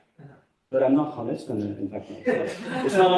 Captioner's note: laughter